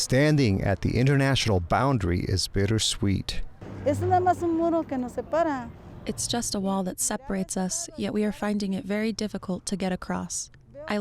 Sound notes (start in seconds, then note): 3.8 speaking Spanish